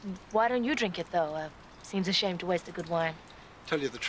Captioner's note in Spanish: none